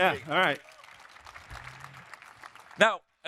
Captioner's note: audience applauding